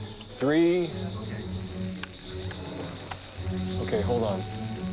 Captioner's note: warbling on monitor